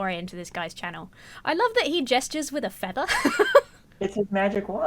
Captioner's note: laughs